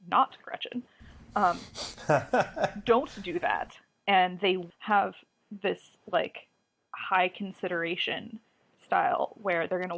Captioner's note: laughs